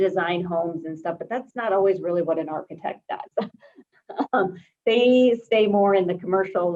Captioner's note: chuckles